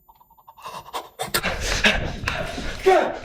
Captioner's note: Chuck gasping; Greg panting